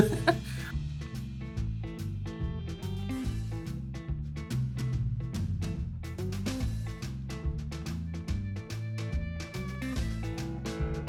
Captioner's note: upbeat music; laughs